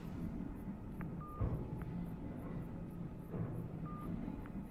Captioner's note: phone beeping